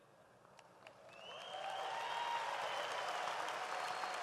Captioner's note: audience applauds